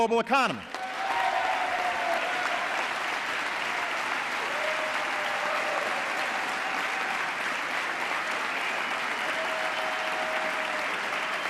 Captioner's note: applause